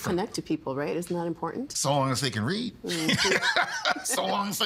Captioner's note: laughing